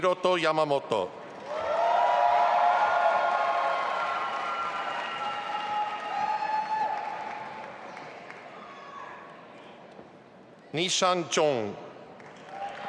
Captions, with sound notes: Hiroto Yamamoto. (audience applauding and cheering) Nishan Zhong.